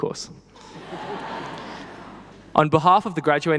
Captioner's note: people laughing